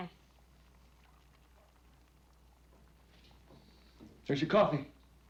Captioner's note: eggs sizzling